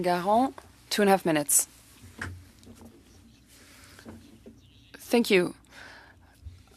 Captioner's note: speaking French